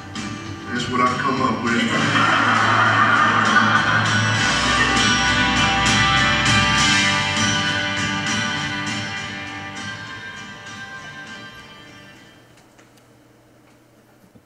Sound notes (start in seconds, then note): 1.8 laugh